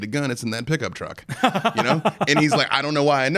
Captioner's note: laughing